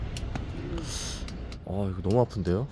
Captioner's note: hiss